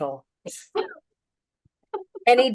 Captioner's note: laughter